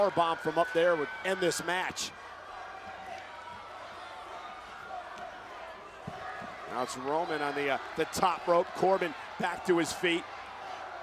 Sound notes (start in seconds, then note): 2.8 crowd shouting and chanting; 10.3 crowd chanting